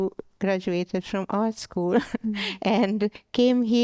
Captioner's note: laughs